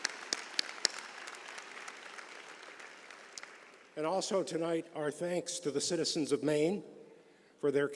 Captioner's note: applause